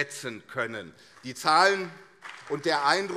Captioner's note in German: Beifall CDU und SPD